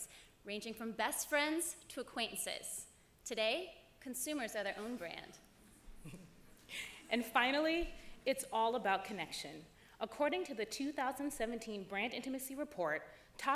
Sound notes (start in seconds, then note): 6.0 laughter